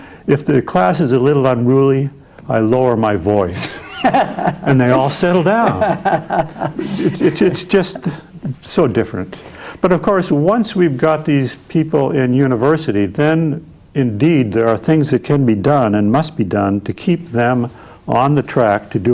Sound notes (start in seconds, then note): 5.6 laughing